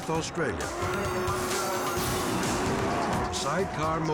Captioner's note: upbeat rock music continues; engines rumbling